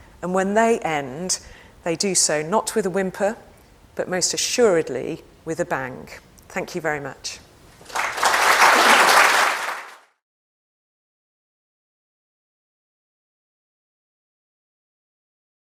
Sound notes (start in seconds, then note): 7.8 audience applauds